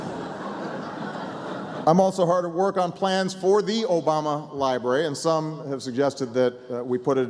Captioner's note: laughter